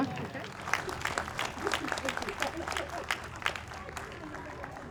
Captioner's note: audience applauds